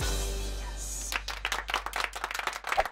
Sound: whispers; applause

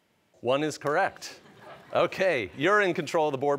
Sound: laughter

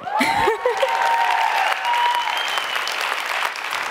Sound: audience applauds

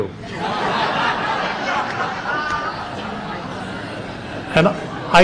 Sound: laughter

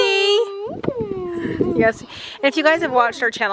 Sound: kids cooing

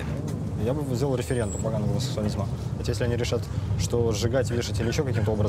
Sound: speaking in foreign language

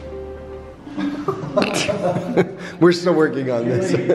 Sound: laughing

